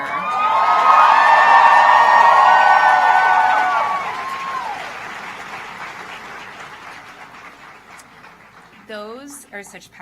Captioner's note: applause